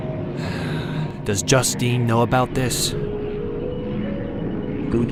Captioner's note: sighs